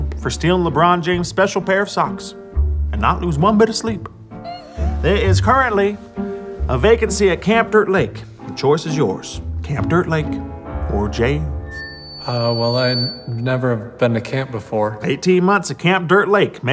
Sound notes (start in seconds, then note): 4.4 whimpering; 11.6 mic feedback